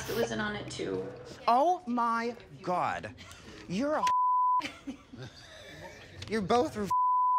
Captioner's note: beep; Alaska laughs; beep